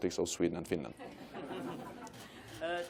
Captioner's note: laughter